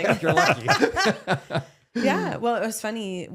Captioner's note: laughing